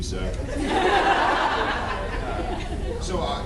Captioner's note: laughs